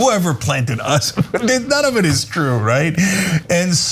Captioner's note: laugh